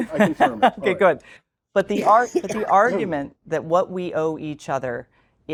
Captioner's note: laugh